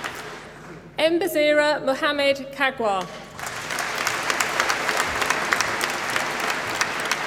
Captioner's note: applause